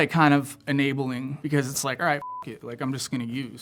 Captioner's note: beep